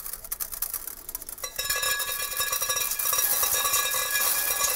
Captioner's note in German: Prasseln und Rauschen